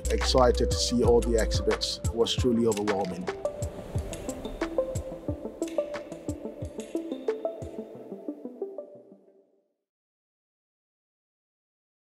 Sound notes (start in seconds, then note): 3.4 logo whooshes; 4.0 bright music